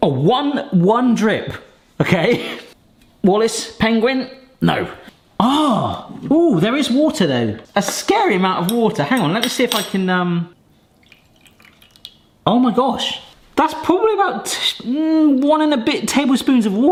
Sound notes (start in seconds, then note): 2.5 laughs; 10.8 water drips